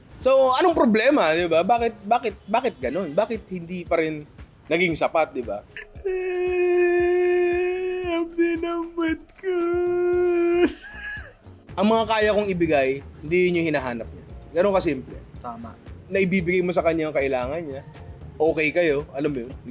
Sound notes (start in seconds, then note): 5.7 sobs